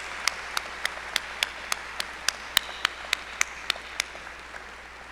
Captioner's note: applause